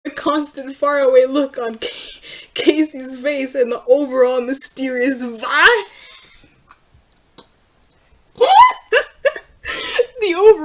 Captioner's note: wheezes